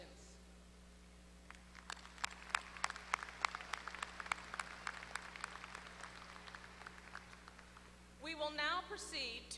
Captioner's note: applause